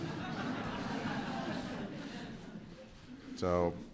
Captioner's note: laughter